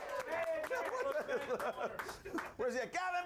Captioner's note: audience cheering